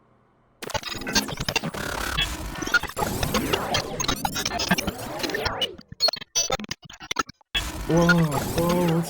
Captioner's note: wacky digital sound effects